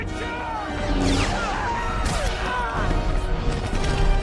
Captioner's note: men scream